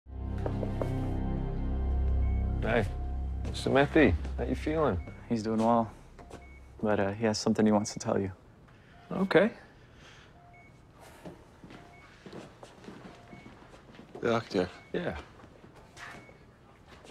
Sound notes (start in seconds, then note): 1.6 machinery beeping